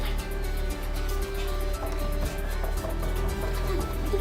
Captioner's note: knocking on door